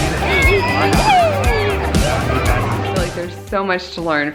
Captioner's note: upbeat music; children playfully yelling